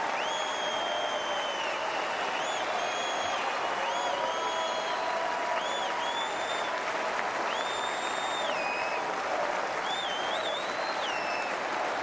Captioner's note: applause